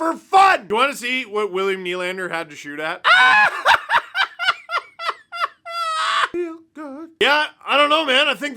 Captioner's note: maniacal laughter